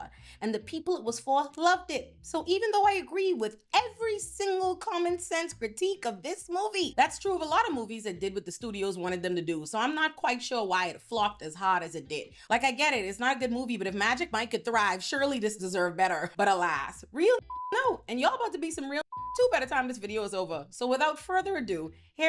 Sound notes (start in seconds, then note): 17.4 beep